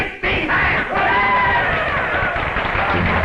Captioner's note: cheers and applause